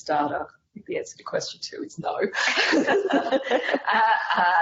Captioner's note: laughing